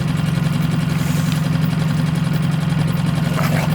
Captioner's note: boat whirring